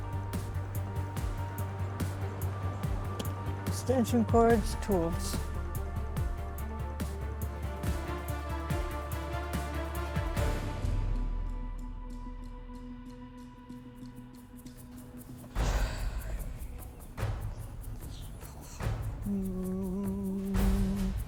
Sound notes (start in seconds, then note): 15.5 sighing